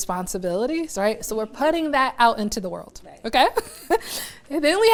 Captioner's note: laughs